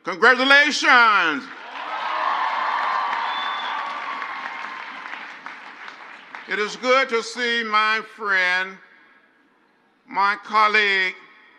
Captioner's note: crowd cheers; crowd applauds